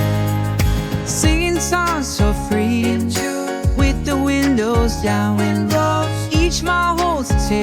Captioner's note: wind blows